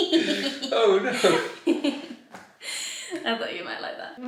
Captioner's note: giggling quickly